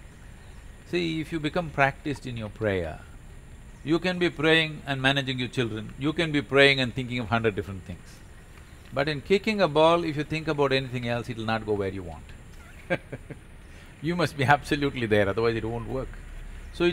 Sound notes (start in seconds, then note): 12.5 laughs